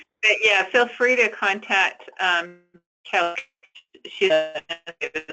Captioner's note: static